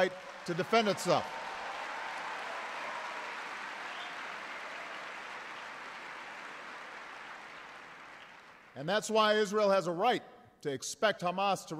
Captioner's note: applause